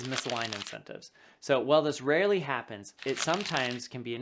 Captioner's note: paper rubbing; paper rubbing